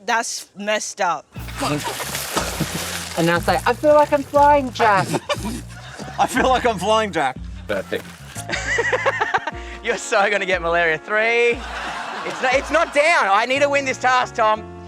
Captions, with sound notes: That's messed up. And now say, "I feel like I'm flying, Jack." I feel like I'm flying, Jack. Perfect. (LAUGHS) You're so going to get malaria three. It's not... It's not down. I need to win this task, Tom!